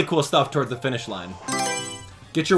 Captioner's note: Mario Selection Sound